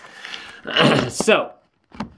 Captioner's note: clears throat